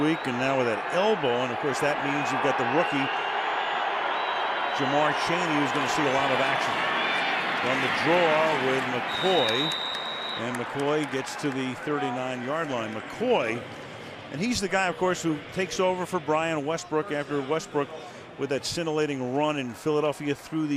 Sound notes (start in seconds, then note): 4.1 whistles